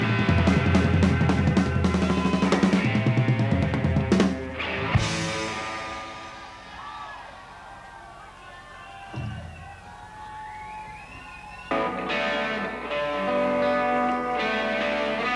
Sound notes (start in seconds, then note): 6.4 crowd cheering; 11.6 gritty guitar music